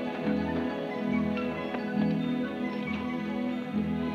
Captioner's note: none